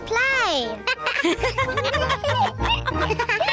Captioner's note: all laugh